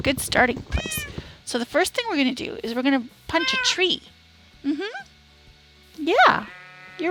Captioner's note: cat meows